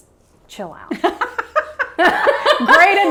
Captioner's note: laughs